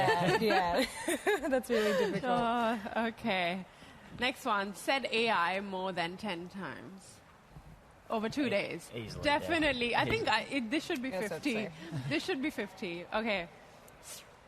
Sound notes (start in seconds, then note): 2.1 laughter